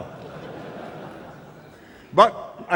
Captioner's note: laughter